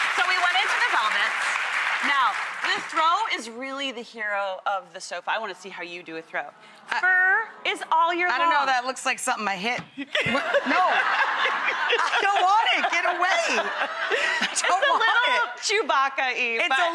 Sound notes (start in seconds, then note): 10.0 laughing